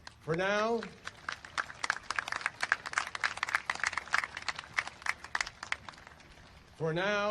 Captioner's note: applause